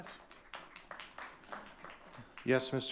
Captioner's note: audience clapping